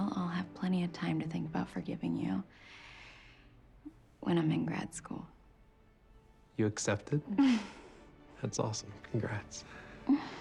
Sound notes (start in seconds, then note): 6.2 laughing; 8.3 upbeat orchestral music